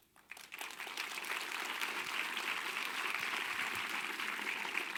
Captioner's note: audience applause